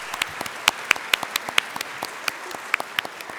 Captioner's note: applause